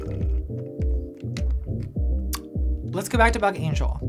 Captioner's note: slurping; muffled pop music